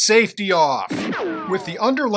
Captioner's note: ricochet!